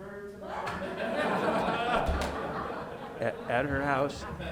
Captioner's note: board members laughing